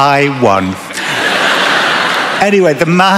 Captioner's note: laughter